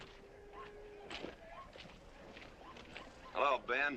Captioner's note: dog barking